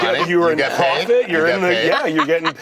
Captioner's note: laughter